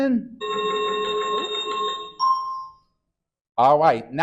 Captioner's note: chiming sound effect